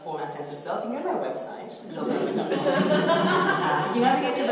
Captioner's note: audience laughter